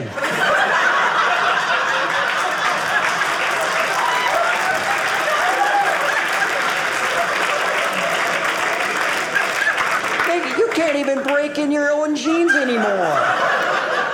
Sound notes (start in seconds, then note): 0.3 audience laughing; 2.3 audience cheering